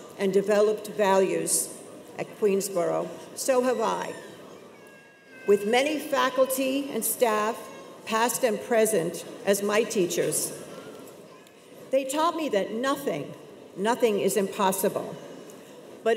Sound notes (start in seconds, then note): none